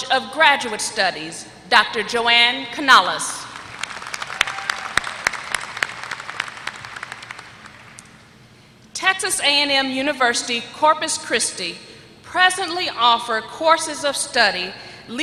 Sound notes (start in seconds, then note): 3.5 applause